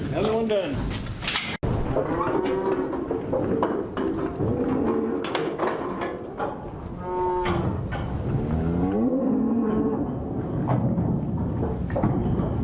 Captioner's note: cattle sounds